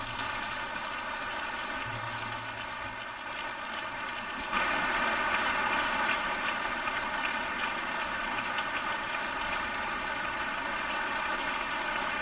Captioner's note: applause